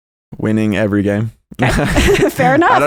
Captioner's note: both laugh